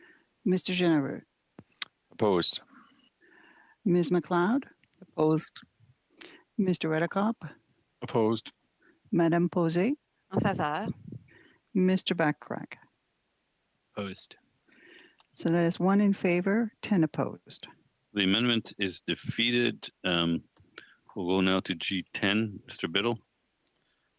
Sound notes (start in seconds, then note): 16.3 speaking french